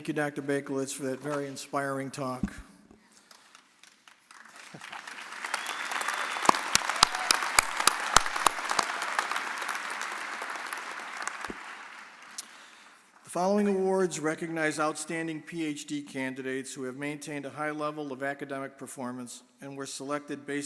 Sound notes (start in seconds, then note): 3.8 audience cheering and applauding